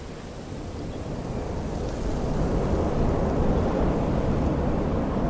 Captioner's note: strong wind blows